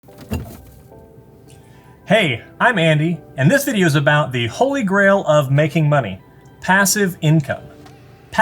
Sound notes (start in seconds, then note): 0.0 fridge door opening